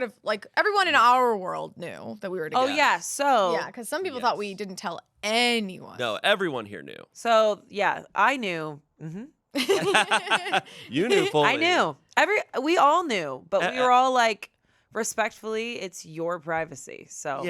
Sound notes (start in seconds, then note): 9.6 everyone laughs